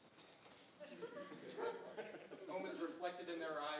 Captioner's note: audience chuckling